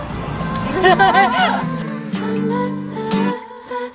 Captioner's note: laughs